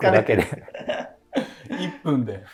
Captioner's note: laughing